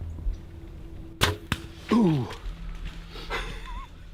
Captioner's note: arrow thumping; laughing